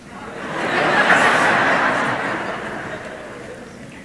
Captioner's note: audience laughs